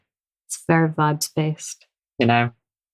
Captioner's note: laughs